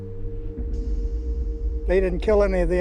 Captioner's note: muffled explosion